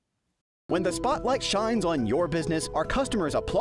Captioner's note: voice-over